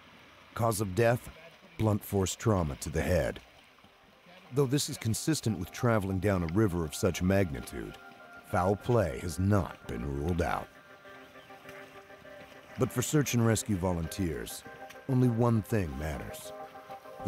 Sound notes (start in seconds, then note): 0.2 men conversing; 6.1 voiceover